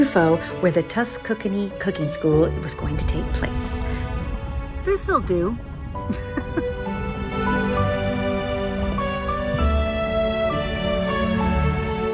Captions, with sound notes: where the Tuscookany cooking school was going to take place. This'll do. (laughs) (gentle music)